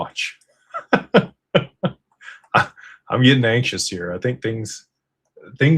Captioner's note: laughter